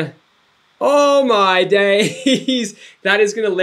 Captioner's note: giggles